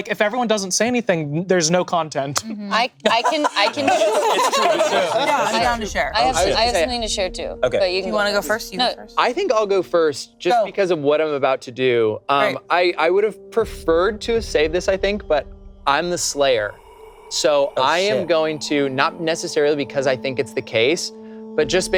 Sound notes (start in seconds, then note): 2.9 group laughing; 3.0 laughing; 16.6 eerie music